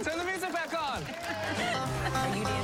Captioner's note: cheering